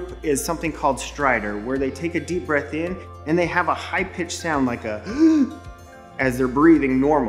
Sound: inhales

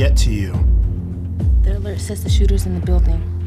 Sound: whispering

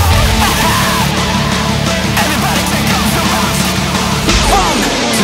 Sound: ha Ha

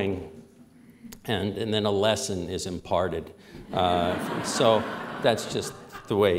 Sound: laughter

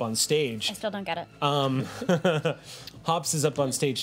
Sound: laughs

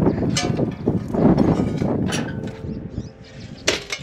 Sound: metal clanking

